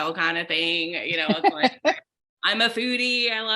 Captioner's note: laughing